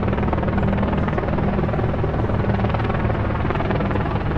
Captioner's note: ominous music; helicopter whirs